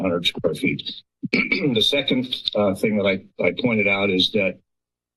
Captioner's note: clears throat